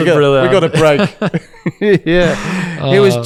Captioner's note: laughs